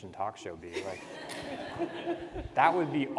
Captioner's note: participants laugh